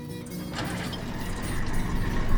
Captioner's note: engine starts